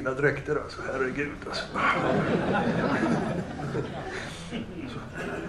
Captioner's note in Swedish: Skratt